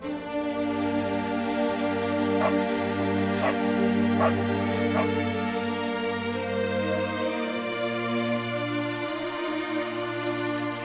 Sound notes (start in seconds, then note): 2.2 dog barking; 2.2 somber music continues